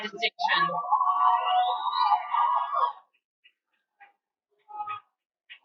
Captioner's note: cheering